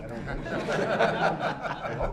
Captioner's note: laughter